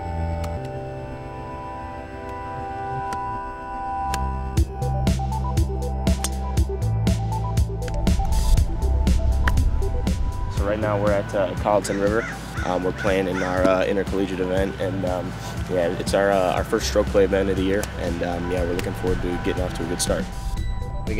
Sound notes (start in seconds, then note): 3.9 golf club wack; 4.6 upbeat techno music; 9.3 golf club wack